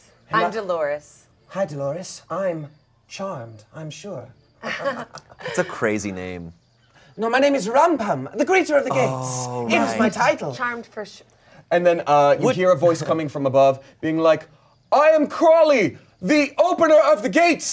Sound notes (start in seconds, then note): 4.6 laughs